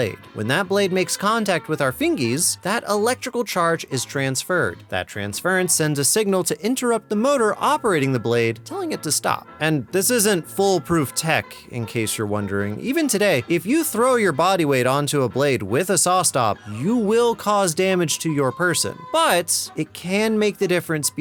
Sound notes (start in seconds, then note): none